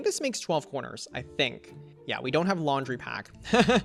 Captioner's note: laughs